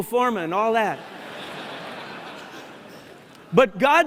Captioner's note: laughter